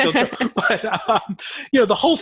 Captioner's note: laughs